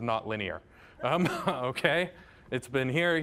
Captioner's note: audience laughing